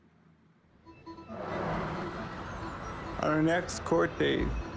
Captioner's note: subtle music; traffic sounds